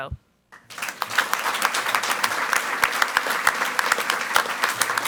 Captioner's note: audience applauds